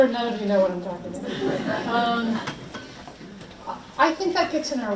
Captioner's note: audience laughs